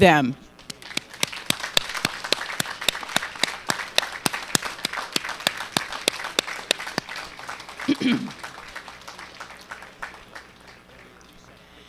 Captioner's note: applause